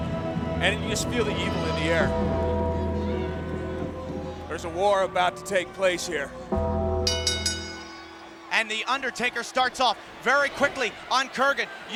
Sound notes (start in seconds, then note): 2.0 bell tolling; 7.0 bell dinging